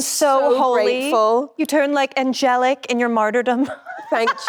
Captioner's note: laughs